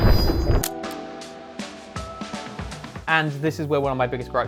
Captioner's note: camera shutter